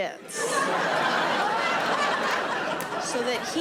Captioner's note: audience laughing